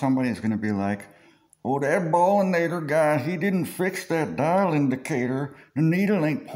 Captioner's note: redheck voice; redneck voice